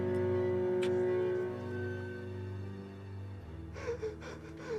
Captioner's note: William sobbing